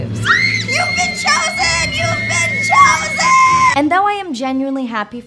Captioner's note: high-pitched squealing